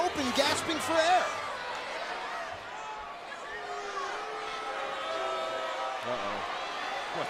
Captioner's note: applause